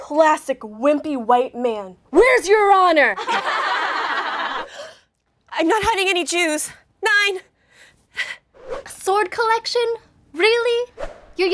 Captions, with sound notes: Classic wimpy, white man. Where's your honor?! (laughter) (gasp) I'm not hiding any Jews. Nein! A sword collection? Really?